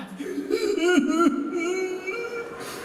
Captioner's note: sob